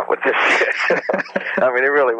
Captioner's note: both laugh